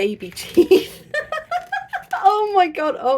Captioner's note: laughing